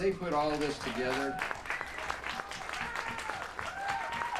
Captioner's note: applause